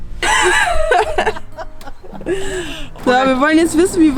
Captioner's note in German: beide lachen, als sie sich sehen